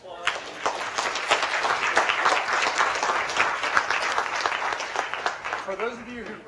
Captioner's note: applause